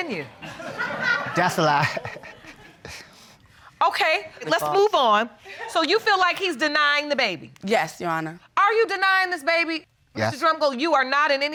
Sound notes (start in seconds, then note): 0.2 laughter; 0.4 laughs